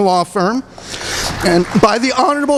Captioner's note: applause